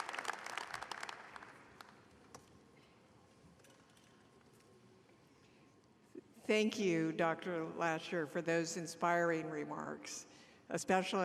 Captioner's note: applause